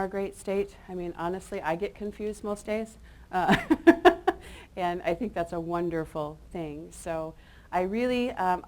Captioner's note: chuckles